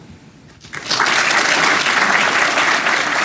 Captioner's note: applause